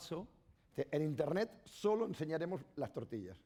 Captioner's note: speaking spanish